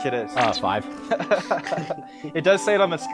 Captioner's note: group laughing